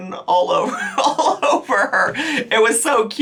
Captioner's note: chuckles